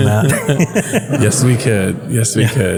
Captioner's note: laugh